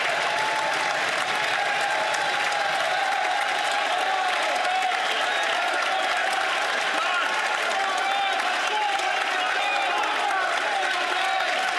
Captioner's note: some Applause